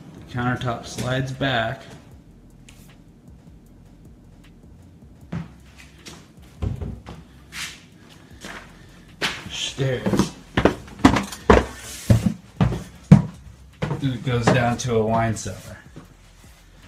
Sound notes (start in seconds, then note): 5.2 boots shuffle; 10.6 heavy footsteps